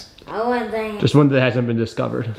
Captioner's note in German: murmelt